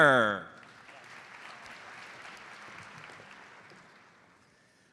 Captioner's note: audience applauds